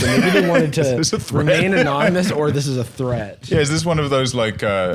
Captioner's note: laughing